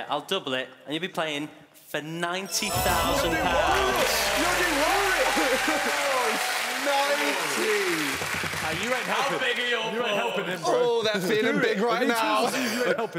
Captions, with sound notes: I'll double it and you'll be playing for 90,000 pounds. (cheering) (shouting)